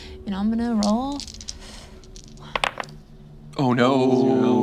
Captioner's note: dice clatter